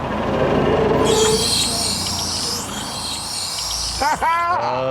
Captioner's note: car groans and squeaks